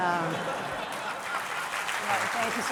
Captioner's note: applause